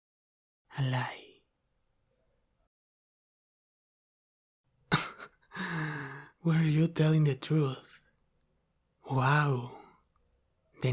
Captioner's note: laughter